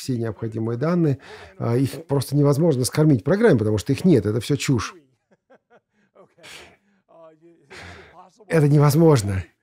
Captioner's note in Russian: смеется